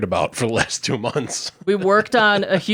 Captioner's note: chuckles